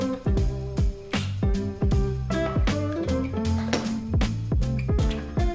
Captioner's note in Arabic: أصوات التقبيل